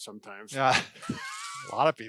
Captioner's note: laughs